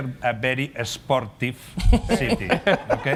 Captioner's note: laughter